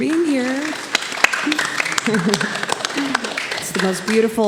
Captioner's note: applause